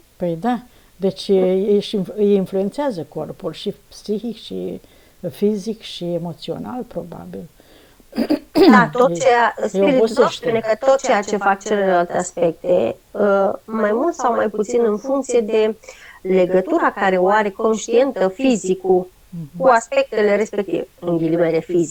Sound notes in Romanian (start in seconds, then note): 7.7 voce dreasă